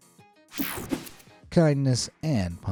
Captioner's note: air whooshing